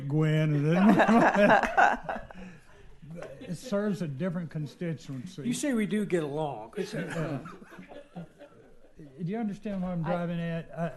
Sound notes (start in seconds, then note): 6.8 laughter